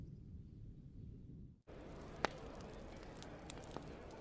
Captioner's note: fire crackling